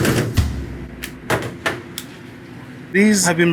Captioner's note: tray clatters